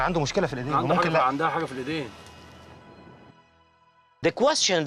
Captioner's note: speaking foreign language